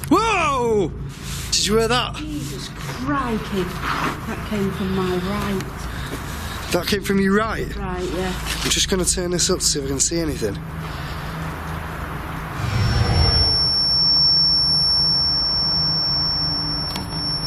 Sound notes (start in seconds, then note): 12.5 high pitched squealing